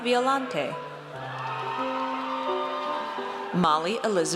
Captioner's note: audience cheers